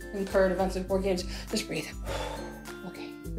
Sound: heavy exhale

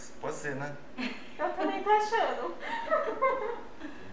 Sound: laughs

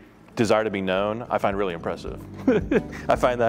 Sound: laughs

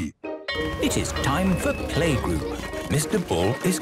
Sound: school bell ringing

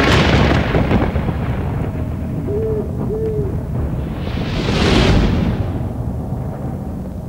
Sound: thunder rumbles and an owl hoots

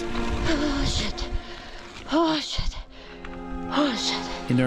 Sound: none

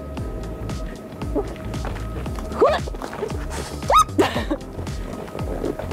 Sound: upbeat music; grunts; giggles

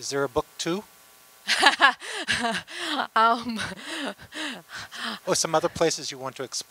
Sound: laughter

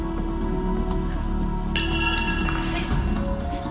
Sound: clang

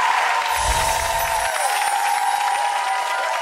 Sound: applause; chimes

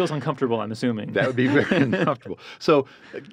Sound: laughs

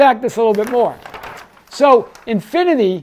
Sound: page shuffles

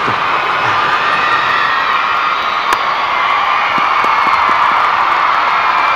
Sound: crowd cheering

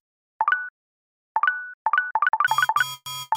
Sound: several new message notifications; alarms

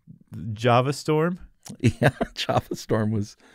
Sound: laughter

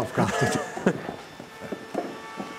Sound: laughs; machine drone

